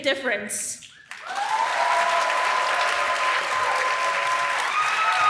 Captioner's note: applause